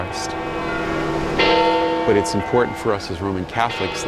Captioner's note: bells tolling